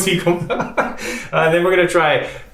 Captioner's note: chuckles